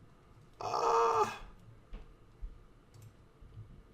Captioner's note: gasps